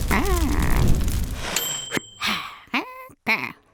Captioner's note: timer dings